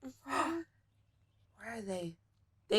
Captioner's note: gasps